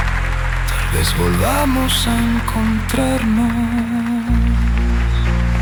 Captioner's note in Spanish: aplausos; aplausos